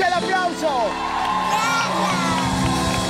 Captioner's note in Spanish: Gritos